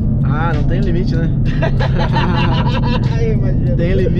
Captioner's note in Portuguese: Risadas